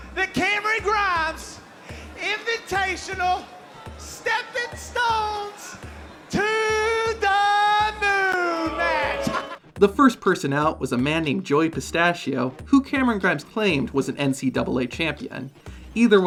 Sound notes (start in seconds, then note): 7.8 laughs